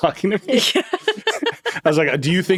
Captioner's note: laughing